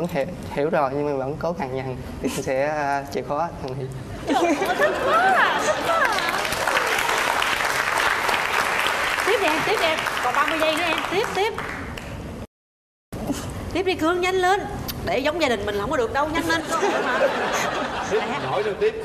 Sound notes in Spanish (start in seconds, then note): 5.8 Aplaudir